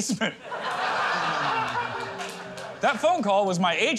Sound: laughter

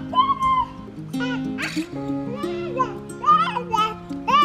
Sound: babbling

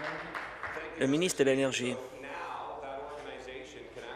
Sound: applause

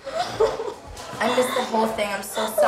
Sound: sobbing

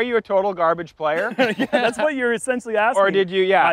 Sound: laughter

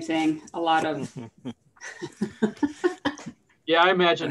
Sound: chuckling

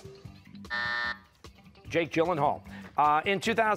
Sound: buzzer

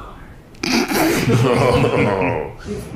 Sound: laughs

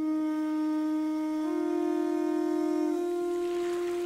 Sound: conch shell blowing

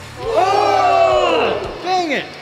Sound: booing

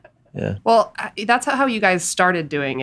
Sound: laughs

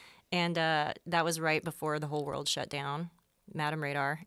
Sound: none

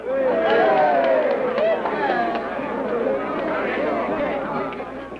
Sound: cheering

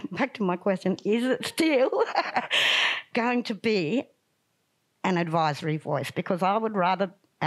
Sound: laughs

